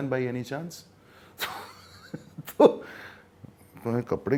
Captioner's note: laughs